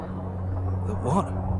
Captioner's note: satellites whirring